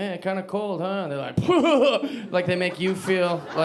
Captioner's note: sarcastic laugh